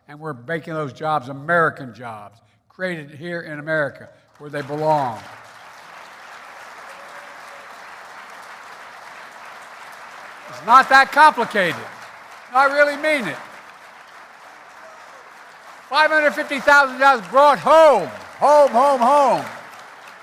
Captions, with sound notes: and we're making those jobs American jobs, created here in America where they belong. (Applause.) It's not that complicated. No, I really mean it. Five hundred fifty thousand jobs brought home -- home, home home.